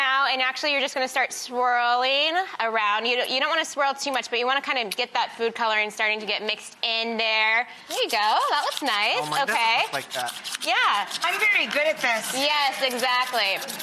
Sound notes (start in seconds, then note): 7.9 skewer scratching